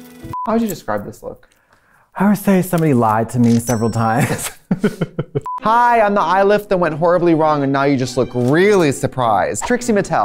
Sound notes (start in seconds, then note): 4.2 laughs